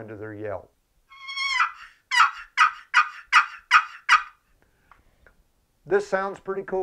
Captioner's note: long high note of a turkey yelp; turkey yelp on a box call